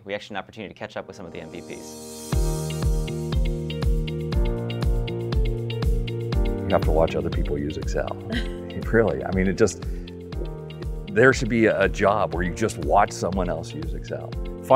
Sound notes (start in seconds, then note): 2.3 upbeat music; 8.2 interviewer laughs